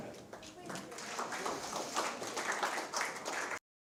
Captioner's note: applause